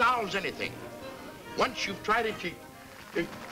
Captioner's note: whimpers